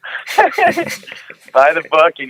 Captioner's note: laughing